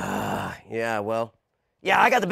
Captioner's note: sighs